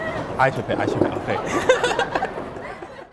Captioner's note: chair clattering; all laughing